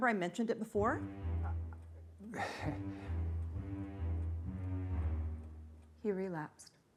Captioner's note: chuckling